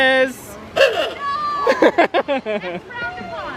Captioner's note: honks horn; laughs